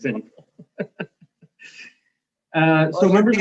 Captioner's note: mayor laughs softly